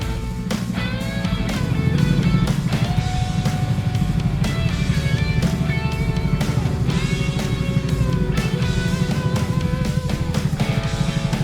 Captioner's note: the sound it makes as it rotates fast